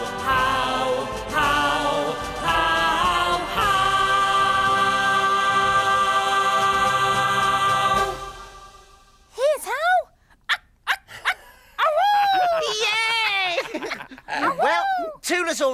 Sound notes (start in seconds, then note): 10.7 Tula imitates Hollowbird; 13.4 Groove laughing